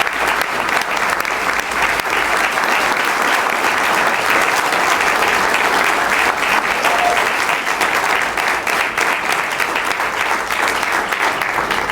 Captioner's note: cheering